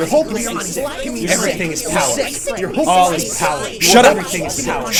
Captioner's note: voices repeating